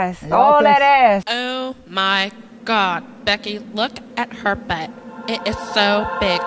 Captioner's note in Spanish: voz de mujer